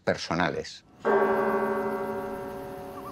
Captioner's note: bells ringing